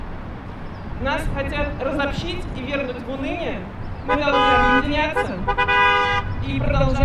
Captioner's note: supporting honks